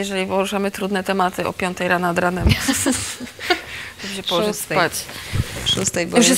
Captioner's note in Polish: śmiech